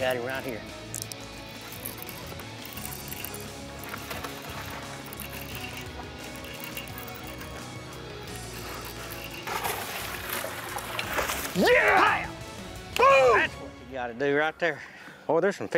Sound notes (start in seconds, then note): 9.9 water splashing; 11.5 both exclaiming